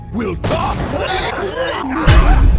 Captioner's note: seksual panic sounds; more imperial banging